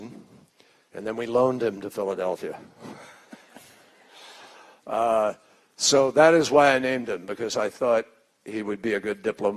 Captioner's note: laughter